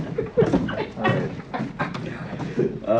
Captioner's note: men laugh